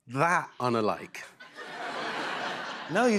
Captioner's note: laughter